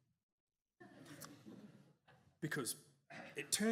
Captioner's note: audience chuckles